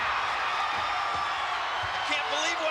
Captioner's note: spectators cheering